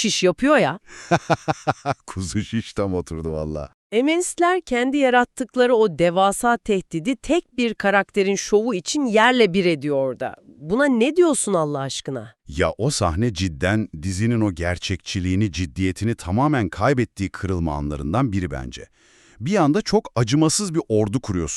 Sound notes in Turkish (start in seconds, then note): 1.0 kahkaha